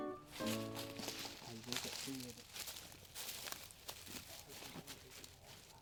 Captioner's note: leaves crunching; indistinct chatting